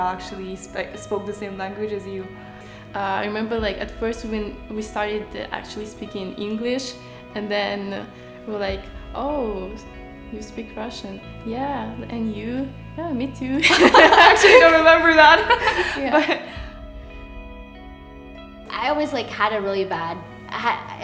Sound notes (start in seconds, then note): 13.6 laughter